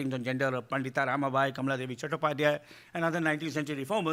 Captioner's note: speaking in foreign language